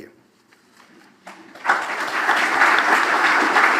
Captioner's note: applause